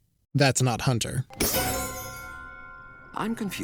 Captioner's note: chiming